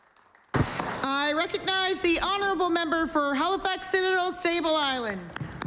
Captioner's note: applause